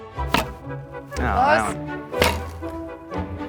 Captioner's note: grumbling; upbeat orchestral music